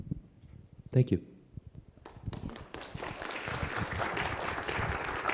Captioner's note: applause